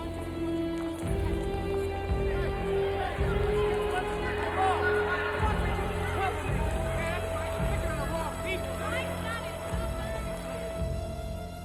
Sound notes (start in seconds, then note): 0.3 dramatic music; 0.3 people chattering; 3.9 crowd clamoring